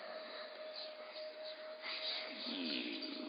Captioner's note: voices chanting